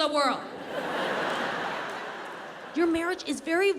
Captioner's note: audience laughs